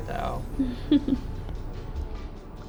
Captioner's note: giggles